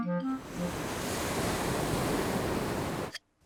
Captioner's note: waves crash and swoosh